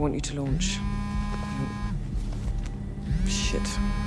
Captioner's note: phone vibrating